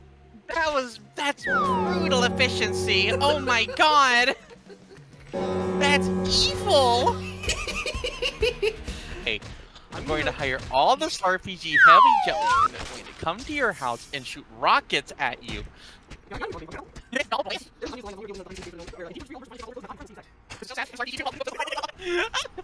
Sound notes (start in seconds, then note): 1.5 death knell; 5.3 death knell; 7.2 evil cow cackling; 11.7 two slide whistles down, one back up